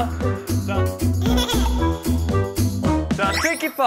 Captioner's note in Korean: 까르륵 까르륵